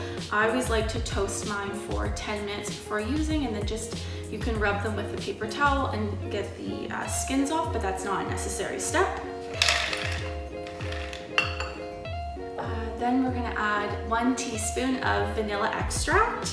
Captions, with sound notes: I always like to toast mine for ten minutes before using and it just-- you can rub them with a paper towel and get the uh skins off, but that’s not a necessary step [hazelnuts clattering] Then we’re gonna add one teaspoon of vanilla extract